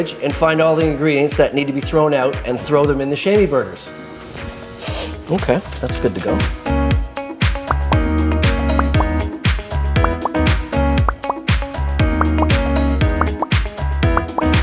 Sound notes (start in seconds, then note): 4.8 sniffs; 5.7 upbeat music